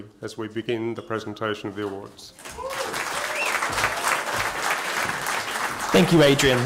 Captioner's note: applause